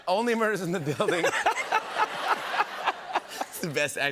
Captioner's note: laughter